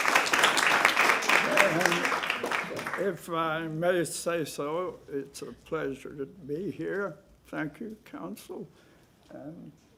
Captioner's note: applause